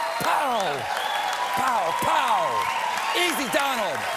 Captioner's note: cheers and applause